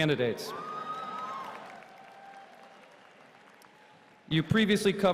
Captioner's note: cheering